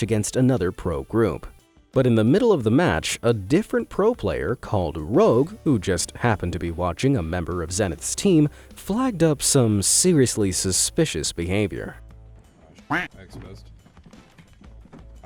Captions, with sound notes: against another pro group, but in the middle of the match, a different pro player called Rogue, who just happened to be watching a member of Zenith's team, flagged up some seriously suspicious behavior. - (duck quacks) I'm exposed.